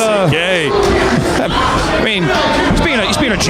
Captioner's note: audience booing